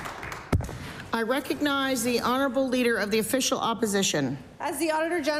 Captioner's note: applause